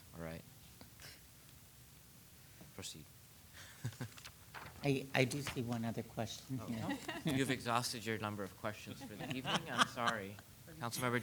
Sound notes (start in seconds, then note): 3.7 laughs; 6.6 attendees laughing; 9.0 laughing